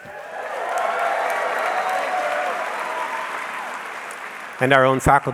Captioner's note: audience cheering